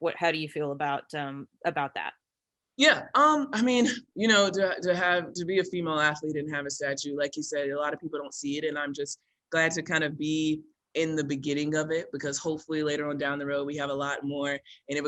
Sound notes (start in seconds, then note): none